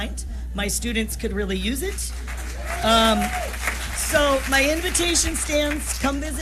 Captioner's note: applause